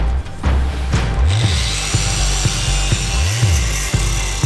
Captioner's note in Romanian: zgomot de ferăstrău electric